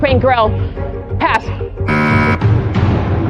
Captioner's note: buzzer sounds; whispers